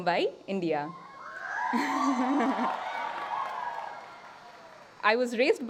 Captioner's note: applause